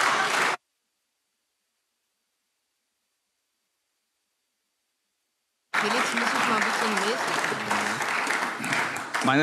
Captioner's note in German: Beifall AfD - Zurufe CDU, SPD und BÜNDNIS 90/DIE GRÜNEN